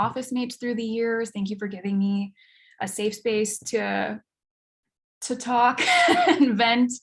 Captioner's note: chuckles